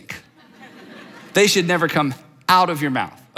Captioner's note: audience laughs